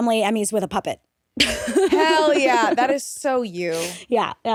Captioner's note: laughing